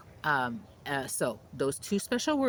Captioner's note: birds chirping